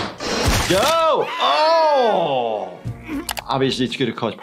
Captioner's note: Lumpy screams